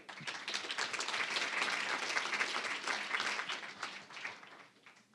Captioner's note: applause